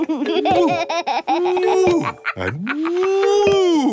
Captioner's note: laughs